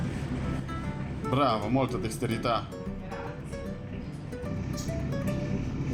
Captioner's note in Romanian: vorbind italiană